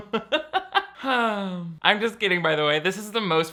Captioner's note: laughs; sighs